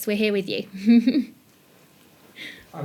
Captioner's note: chuckles